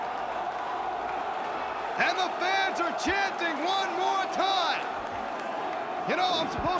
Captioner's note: crowd cheering